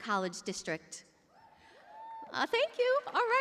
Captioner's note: cheers and applause